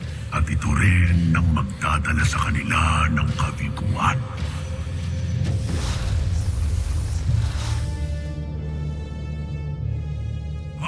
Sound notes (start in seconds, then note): 5.0 evil energy whoosh & crackle; 5.4 suspenseful music playing